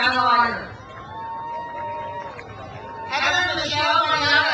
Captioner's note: crowd cheers